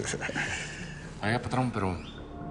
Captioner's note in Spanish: Risas